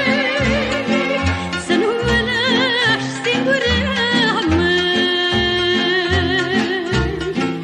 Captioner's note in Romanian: Aplauze